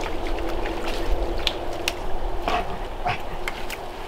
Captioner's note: water sloshing